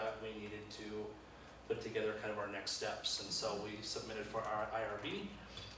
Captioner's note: none